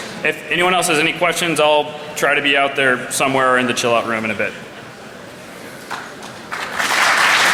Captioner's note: applause